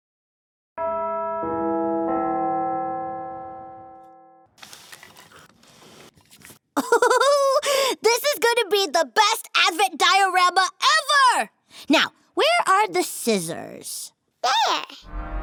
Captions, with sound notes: (bells chime) (laughs) This is gonna be the best Advent diorama ever. Now where are the scissors? - There.